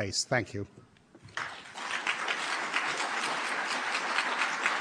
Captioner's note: applause